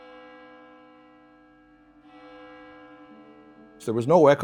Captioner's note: church bell rings